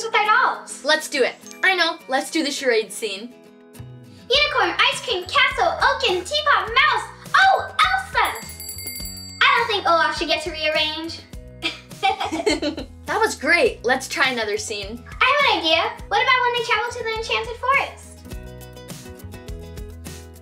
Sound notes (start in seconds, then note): 8.1 bell ringing; 11.6 laughter; 18.4 upbeat music